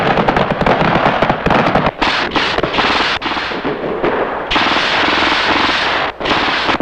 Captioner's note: guns firing; missile blasting